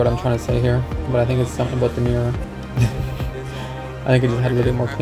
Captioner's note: laughs